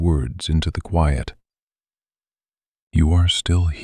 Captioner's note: long pause